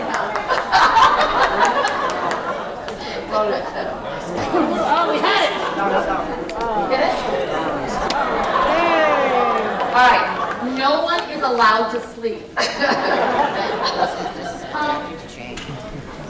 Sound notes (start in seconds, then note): 8.1 resounding, relieved sarcastic cheer